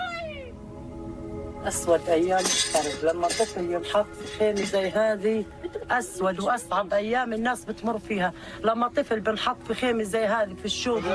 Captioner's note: speaking in a global language